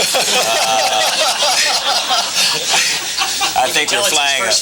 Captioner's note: laughing